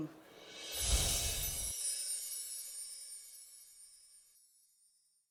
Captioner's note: words whoosh